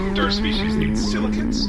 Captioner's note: groans